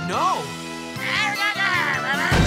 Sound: shouting

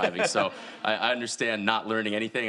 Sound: audience laughing

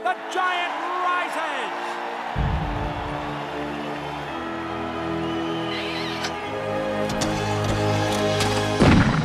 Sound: audience screaming and cheering

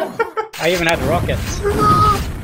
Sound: laughter; more laughing; more laughing

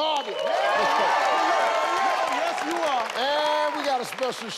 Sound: audience cheering

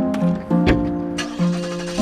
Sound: footsteps on pavement; journeying music; car door shuts; police car starts

